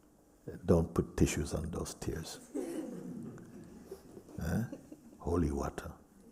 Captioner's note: laughter